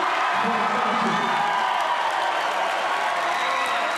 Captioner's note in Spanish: Vítores